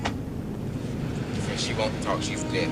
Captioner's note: car door closes